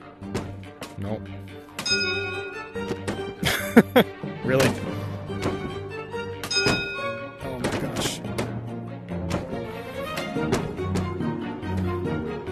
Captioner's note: ding; laughs